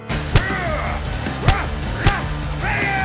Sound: grunting

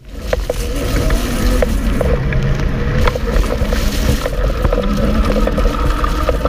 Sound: motor whirring; motor whirring

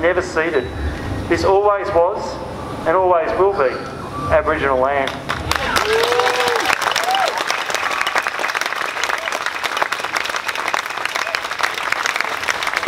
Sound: clapping

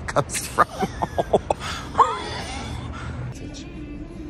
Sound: fake Wheezing Laughter And Terrible Joke

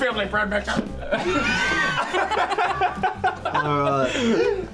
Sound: laughter

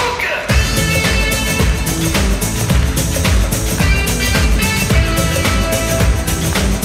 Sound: funky dance music; audience clapping

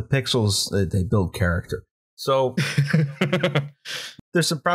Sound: laughter

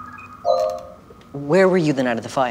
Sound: software noise

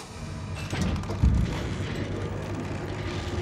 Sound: motor whirring

